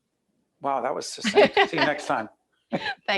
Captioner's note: laughing